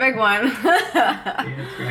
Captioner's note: laughing